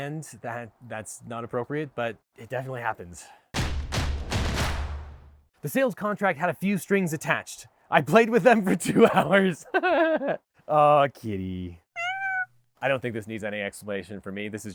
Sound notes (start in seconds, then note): 3.6 drums beat; 8.7 laughs; 11.9 cat meows